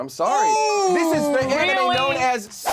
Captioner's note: overlapping chattering